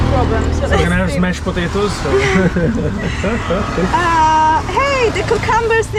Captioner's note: laughing